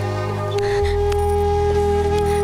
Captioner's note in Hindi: none